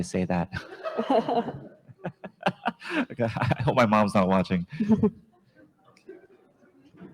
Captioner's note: laughs